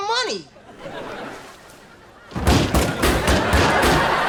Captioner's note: audience laughter